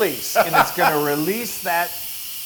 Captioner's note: laugh